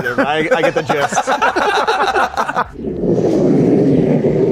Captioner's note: all laugh